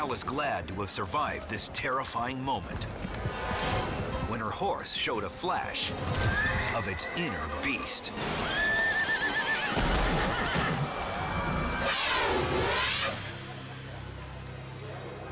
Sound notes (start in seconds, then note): 6.2 horse neighs; 9.7 horse thuds; 12.7 dramatic music